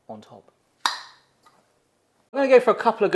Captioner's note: lid pops